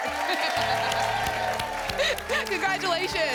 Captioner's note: applause